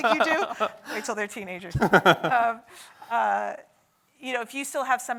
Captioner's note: laughs